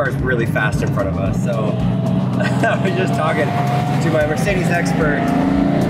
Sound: chuckles

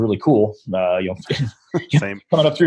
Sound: laughter

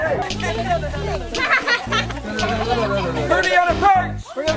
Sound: children laughing

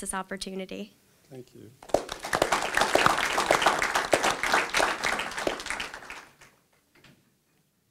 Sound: clapping

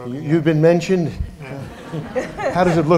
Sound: laughter

